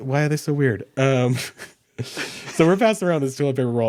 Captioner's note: both chuckling